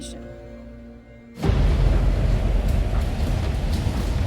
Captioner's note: wind gushing